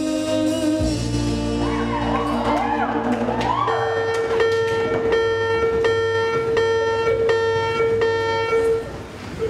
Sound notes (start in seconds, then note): 1.6 cheers; 3.8 Classic Radford bell. bell. bell. bell. bell. bell. bell